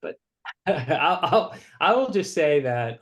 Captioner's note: laughs